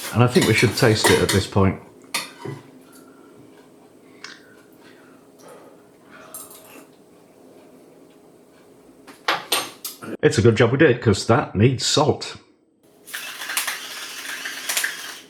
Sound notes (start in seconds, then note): 6.5 slurp